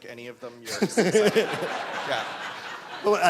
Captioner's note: laughter